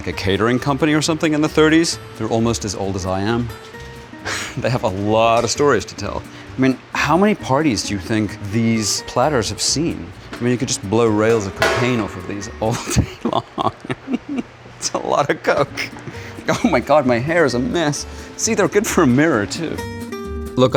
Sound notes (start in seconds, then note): 4.2 chuckles; 12.8 laughs